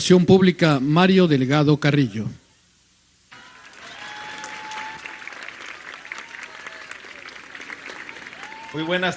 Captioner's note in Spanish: aplausos